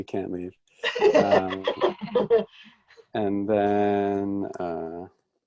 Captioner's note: ladies laughing